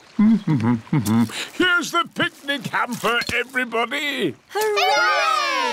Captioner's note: hums